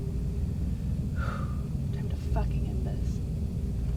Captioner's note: sighs